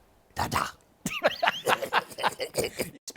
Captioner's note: laughter